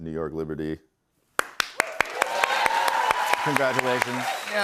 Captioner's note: cheers and applause